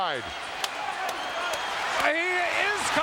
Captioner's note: Tonga clapping